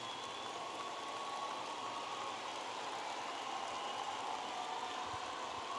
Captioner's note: audience applauding and cheering